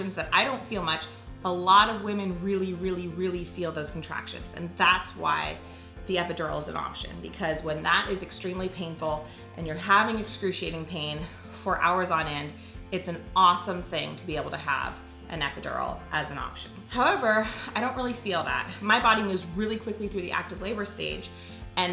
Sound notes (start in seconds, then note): none